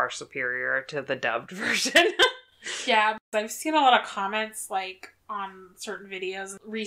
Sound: laughs

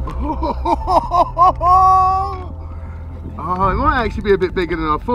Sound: excited cheering

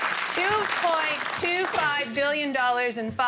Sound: applause

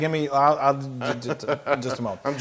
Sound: laugh

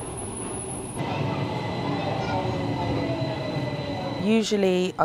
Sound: train roaring

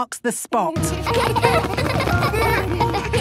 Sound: laughter

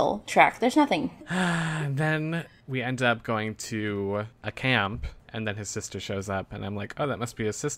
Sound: sighs

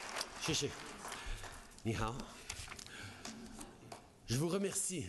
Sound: applause

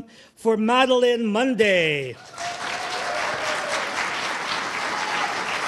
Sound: audience applauding

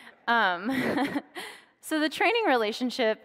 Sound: laughs

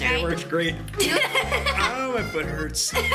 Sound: laughs

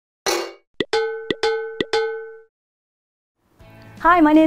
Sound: bucket clanging

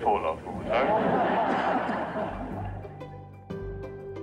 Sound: crowd laughing; energetic classical music

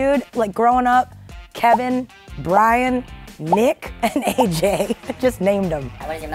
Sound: laughs

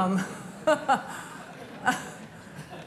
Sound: laughter

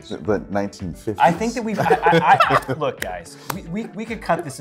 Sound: laughing

